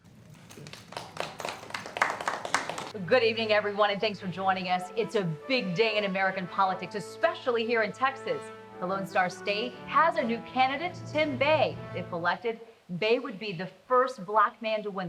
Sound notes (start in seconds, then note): 0.0 group applauds